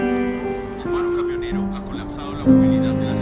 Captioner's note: radio